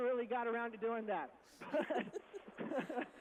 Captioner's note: laughing